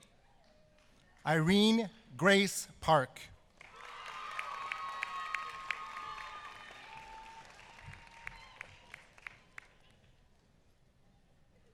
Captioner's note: applause